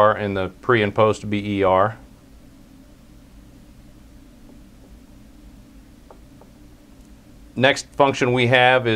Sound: pause

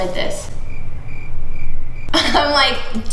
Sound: crickets chirping

